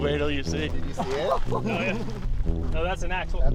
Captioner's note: laughs